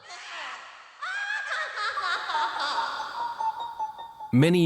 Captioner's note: laughing